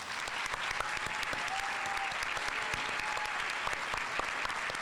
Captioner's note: audience applauding